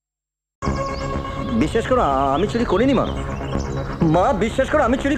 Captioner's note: bengali movie playing